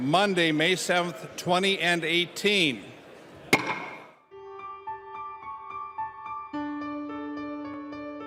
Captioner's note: gavel